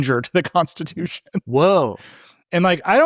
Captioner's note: laughing